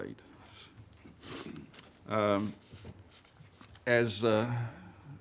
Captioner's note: sniffs